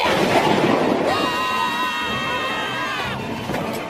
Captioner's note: screams